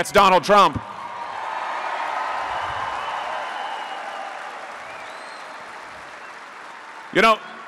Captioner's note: applause